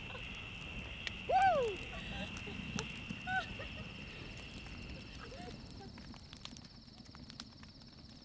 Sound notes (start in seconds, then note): 2.1 fire crackling; 3.2 laughter